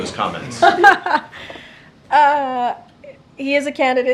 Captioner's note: laughs